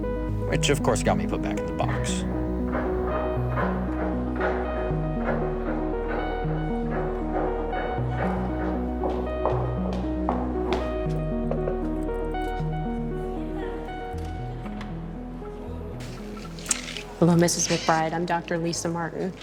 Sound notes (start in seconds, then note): 2.7 gentle music continues; 2.7 shoes clacking; 11.4 door knocking; 14.3 latch clicks